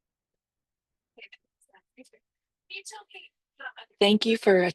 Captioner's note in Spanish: conversación confusa